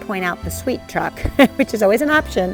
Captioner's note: chuckles